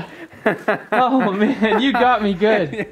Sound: laughing

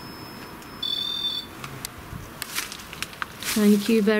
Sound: sensor buzzes

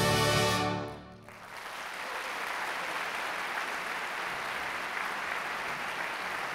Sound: applause

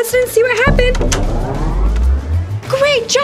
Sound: boom

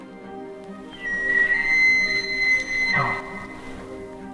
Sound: elk bugling

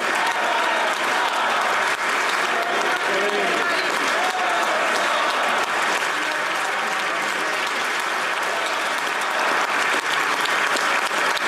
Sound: applause

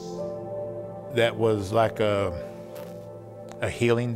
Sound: pat

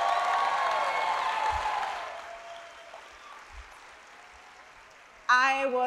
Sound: applause and cheers

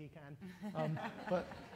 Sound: laughter

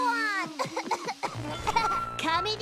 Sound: coughing

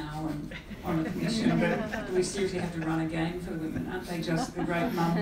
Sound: laugh

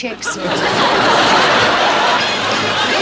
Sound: audience laughs

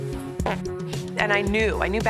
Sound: farting

